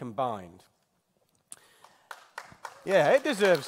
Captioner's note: applause